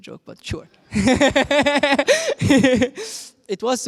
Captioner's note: laughs